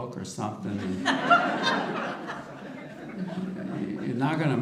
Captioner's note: audience laughter